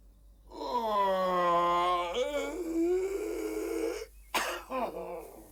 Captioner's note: yawning